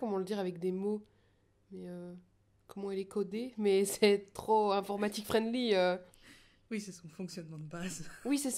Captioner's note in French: rires